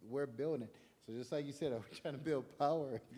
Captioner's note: chuckling